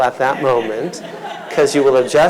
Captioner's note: audience laughs